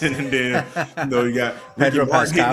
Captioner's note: laughing